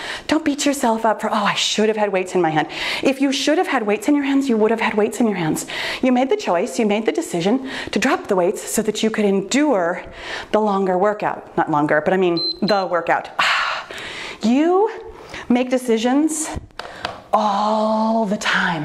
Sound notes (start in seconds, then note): 12.3 timer beeps